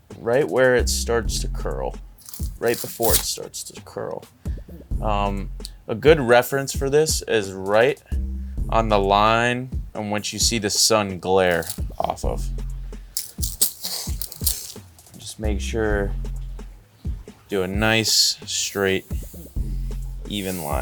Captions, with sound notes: Right where it starts to curl. Right before it starts to curl. A good reference for this is right on the line and once you see the sun glare off of. (tape pulling) Just make sure do a nice, straight even line across the top.